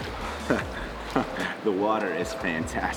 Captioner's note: laughter